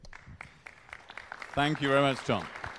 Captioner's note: applause